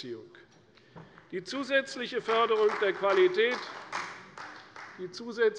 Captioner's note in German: Beifall bei der CDU